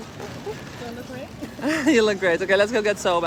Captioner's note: laughter